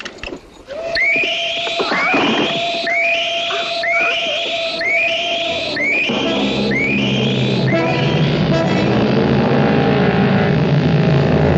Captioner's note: screaming